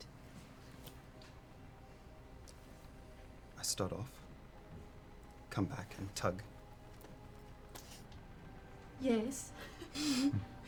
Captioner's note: whispers